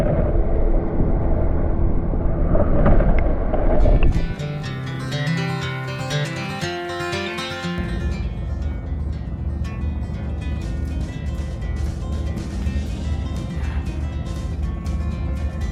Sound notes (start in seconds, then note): 2.4 underwater sound